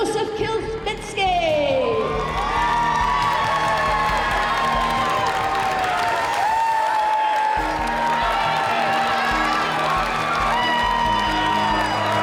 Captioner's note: cheers and applause